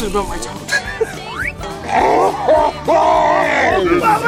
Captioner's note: laughing